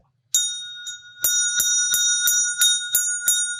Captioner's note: bell ringing